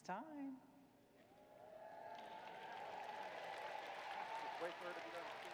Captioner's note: applause